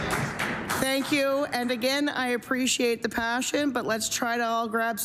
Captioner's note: applause